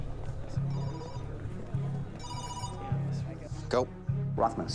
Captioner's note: phone ringing